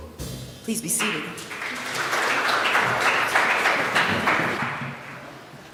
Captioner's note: applause